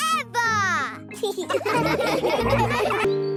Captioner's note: laughing